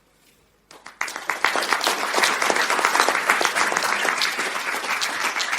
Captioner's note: audience clapping